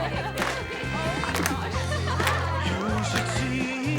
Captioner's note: laughs; students clap rhythmically; upbeat 60s pop music